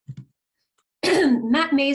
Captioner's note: clears throat